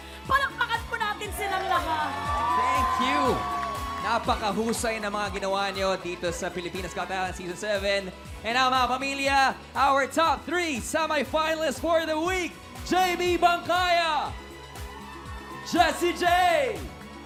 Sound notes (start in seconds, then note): 1.2 whooping, applause